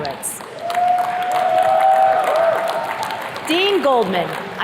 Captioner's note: attendees cheers and claps